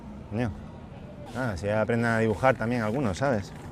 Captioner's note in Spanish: none